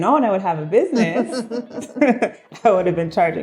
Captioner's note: laughing